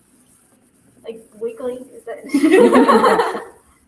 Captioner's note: laughther